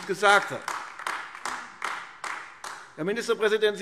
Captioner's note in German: Beifall AfD